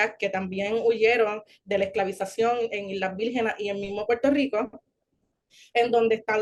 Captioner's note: continues speaking Spanish